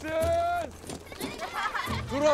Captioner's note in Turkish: Gülme sesleri